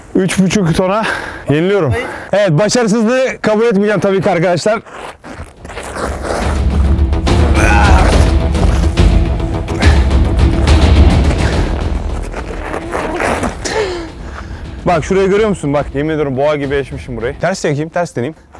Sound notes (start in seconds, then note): 4.9 grunting noises and background music